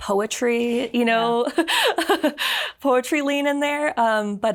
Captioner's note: laughs